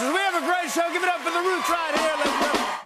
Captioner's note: cheers and applause